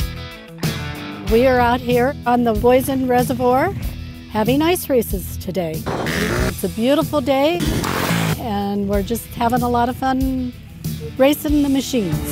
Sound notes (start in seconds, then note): 5.8 motorbike engines roaring; 12.1 upbeat instrumental music